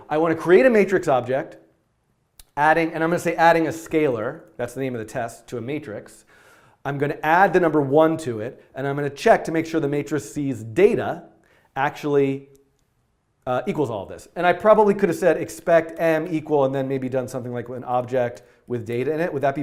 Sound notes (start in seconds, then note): none